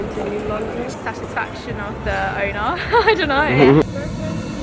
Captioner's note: laugh